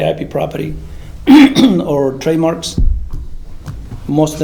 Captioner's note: clears throat